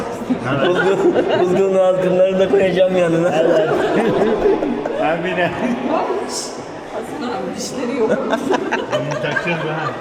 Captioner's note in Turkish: kahkaha; kahkaha